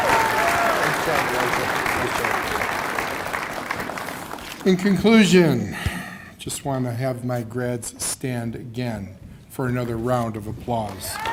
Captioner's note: cheers and applause